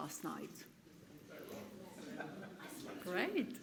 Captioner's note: audience murmurs